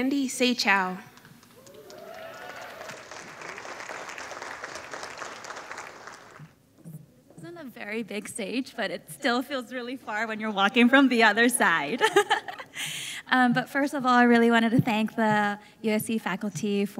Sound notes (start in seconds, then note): 1.6 audience applauding